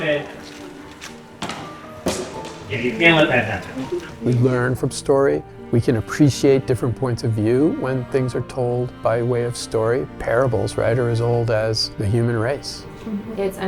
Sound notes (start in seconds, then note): 2.0 sword falls off stage